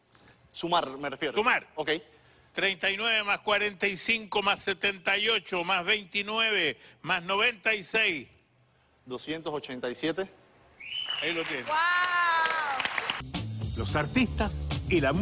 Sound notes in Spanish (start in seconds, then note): 10.8 Silbidos; 11.0 Aplausos